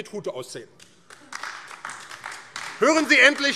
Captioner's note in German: Beifall AfD